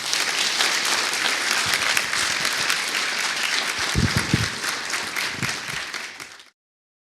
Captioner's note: applause